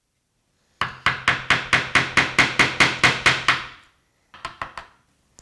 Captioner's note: mallet on chisel tapping